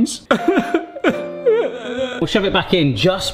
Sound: sobbing

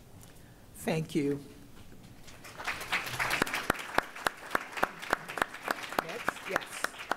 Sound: applause

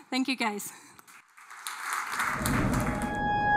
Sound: applause

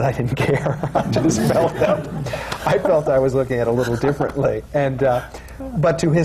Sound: laughs; laughter

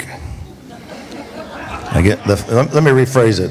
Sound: congregation laughs

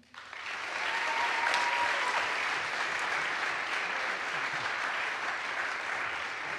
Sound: audience applauds; audience cheers

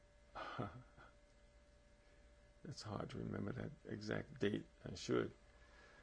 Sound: laughs

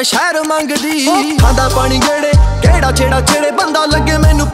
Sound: water flows over

